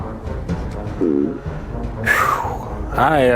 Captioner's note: passes gas